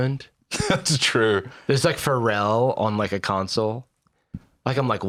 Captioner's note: laughs